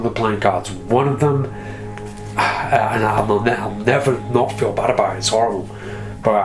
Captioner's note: sighs